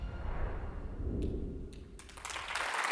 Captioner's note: wind whooshing; audience applauds